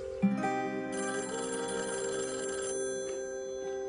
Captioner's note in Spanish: Suena el teléfono